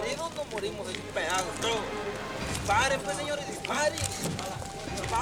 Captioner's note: kidnapper speaking in foreign language; cameras clicking